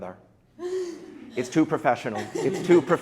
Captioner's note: light laughing